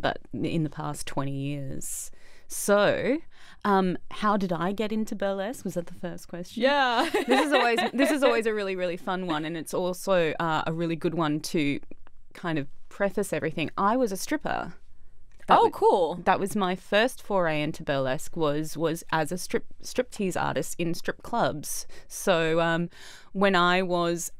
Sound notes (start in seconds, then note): 7.0 laughs